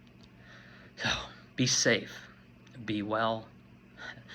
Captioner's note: breathes deeply